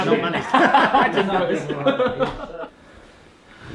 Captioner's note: laughter